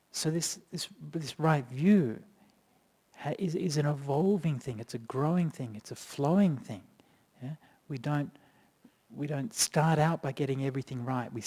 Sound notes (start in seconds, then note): none